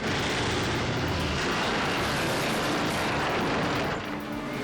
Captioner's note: plane slams